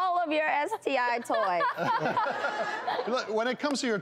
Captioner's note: laughing